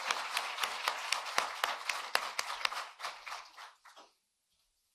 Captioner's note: cheering and applause